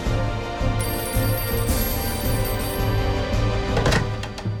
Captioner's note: phone rings